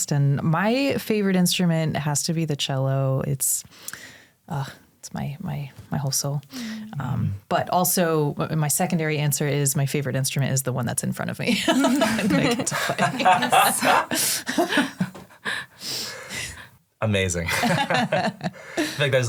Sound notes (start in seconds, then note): 11.6 all laugh; 17.5 all chuckle